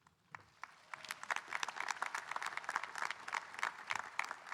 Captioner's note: audience applauding